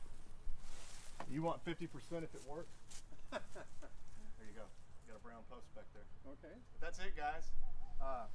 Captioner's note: laughs